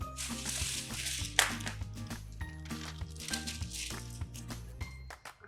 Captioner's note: paper rustles; box hits floor